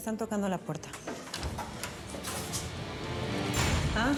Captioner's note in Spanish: ruido al abrir